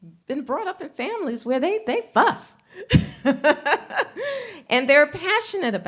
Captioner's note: laughs